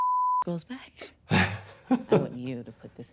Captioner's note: beep; laughing